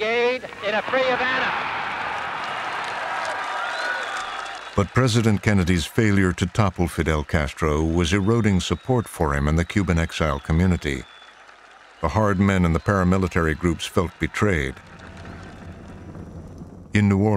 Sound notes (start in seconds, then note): 2.8 applause